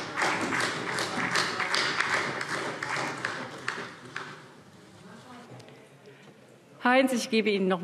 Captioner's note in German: Beifall SPD